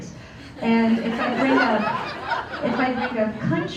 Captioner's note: laughter